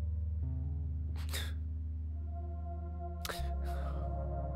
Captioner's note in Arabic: البكاء